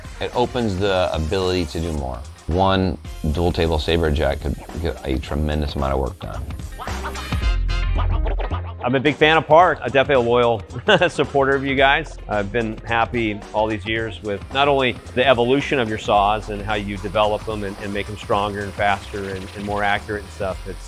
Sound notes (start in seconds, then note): 7.0 upbeat music continues; 10.7 laughs